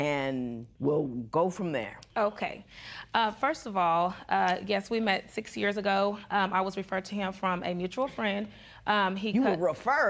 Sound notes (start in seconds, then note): none